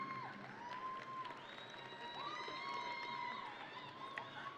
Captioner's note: audience cheering